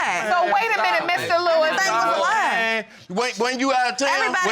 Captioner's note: all clamoring